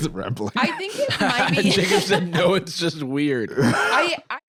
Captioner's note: laughs